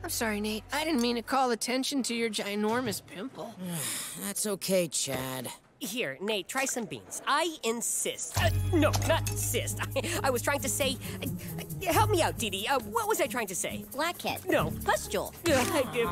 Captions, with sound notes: I didn't mean to call attention to your ginormous pimple. [sighing] That's okay, Chad. Here, Nate, try some beans. I insist. No, not cyst. I was trying to say... Help me out, Dee Dee. What was I trying to say? - Blackhead? - No. - Pustule? - I give up.